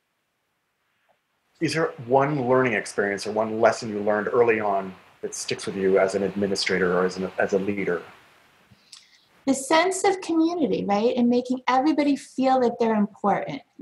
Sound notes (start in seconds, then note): none